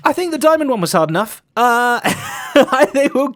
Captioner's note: laughs